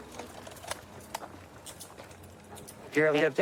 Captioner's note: handcuffs clicking